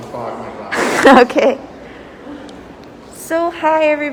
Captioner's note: laughs